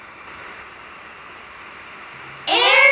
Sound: truck sounds

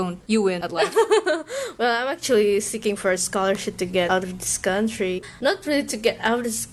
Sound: laughs

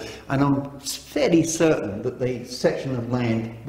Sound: none

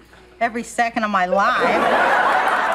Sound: laughter

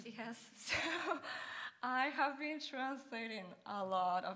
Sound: chuckles

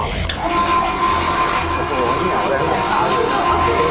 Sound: machine moving

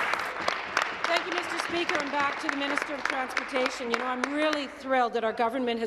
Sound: applause

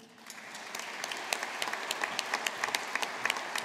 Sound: audience applauding

